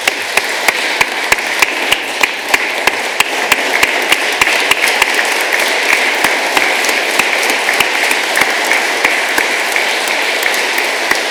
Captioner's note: applause